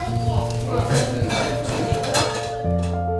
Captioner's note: silverware clanging; mellow instrumental music; baby cooing; mellow instrumental music continues